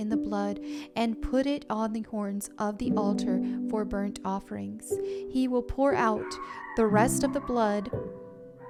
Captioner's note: dog barking